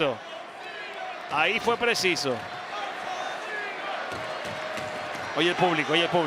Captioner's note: applause